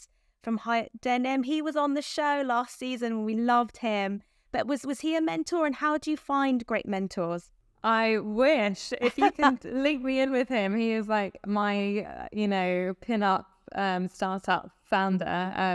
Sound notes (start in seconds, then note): 9.0 chuckling